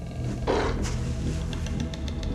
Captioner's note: animal growls